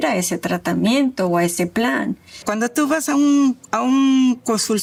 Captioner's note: speaking Spanish